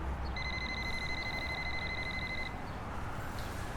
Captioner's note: cell phone ringing